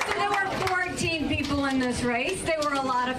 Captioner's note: applause; applause